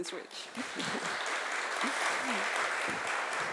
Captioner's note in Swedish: Applause